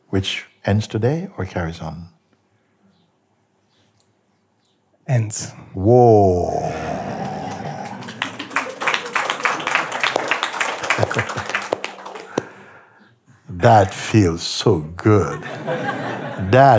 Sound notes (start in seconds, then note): 8.4 applause; 15.3 laughter